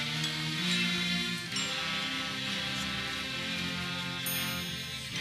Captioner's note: none